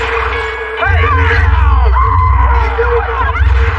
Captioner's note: people exclaimg